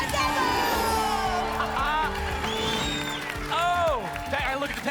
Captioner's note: applause and cheering